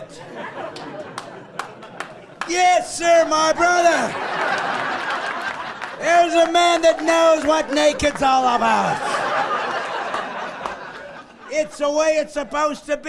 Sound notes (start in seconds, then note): 4.0 laughing; 4.1 slow clapping